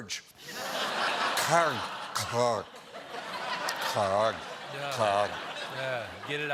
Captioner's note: laughter